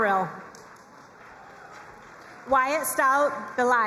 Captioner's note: crowd cheering and applauding